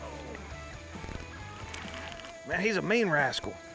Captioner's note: fishing rod riling